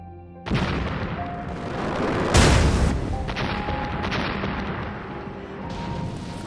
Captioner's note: meteor crashes